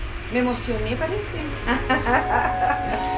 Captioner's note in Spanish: ríe